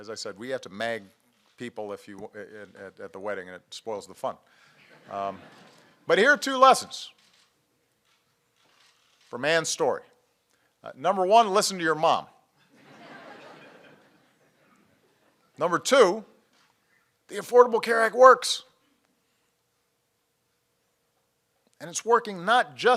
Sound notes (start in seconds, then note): 4.8 laughter; 12.6 laughter